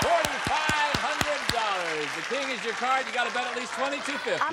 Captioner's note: applause